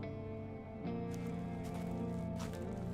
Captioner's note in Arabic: خطوات بطيئة